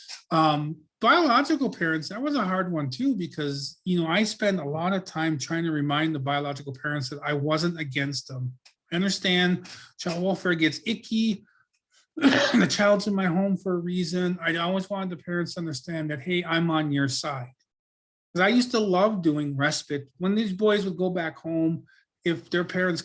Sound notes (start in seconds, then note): 12.2 coughs